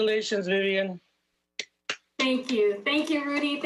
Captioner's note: applauding